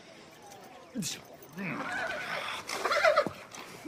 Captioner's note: grunting in disgust